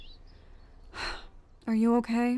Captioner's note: Arbor sighs